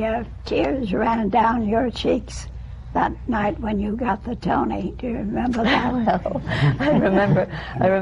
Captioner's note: laughter